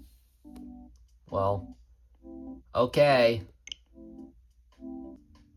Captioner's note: setup music playing; click; setup music